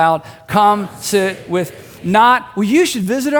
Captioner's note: crowd